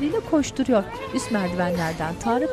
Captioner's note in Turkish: Çocuk sesleri